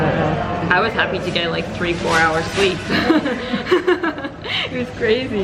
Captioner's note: giggle